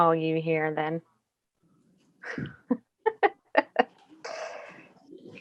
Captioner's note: laughs